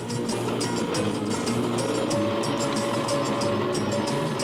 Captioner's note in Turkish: araba sesi̇